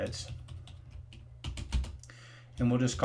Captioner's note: keys typing